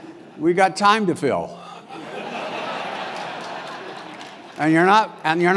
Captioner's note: laugh